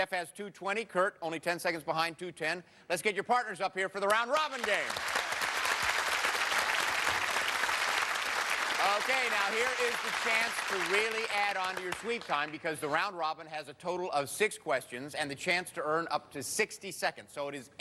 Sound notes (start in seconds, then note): 4.4 cheers and applause